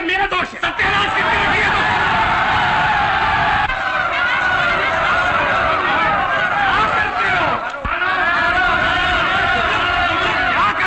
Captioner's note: Shouts of a furious crowd